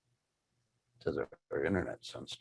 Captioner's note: whispering